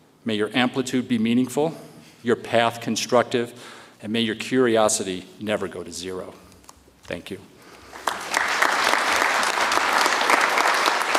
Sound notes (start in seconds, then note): 7.8 audience applauds